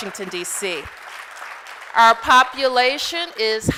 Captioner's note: applause